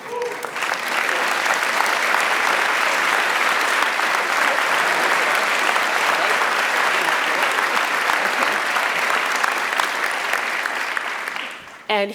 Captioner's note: applause